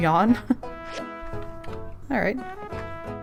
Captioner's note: laughs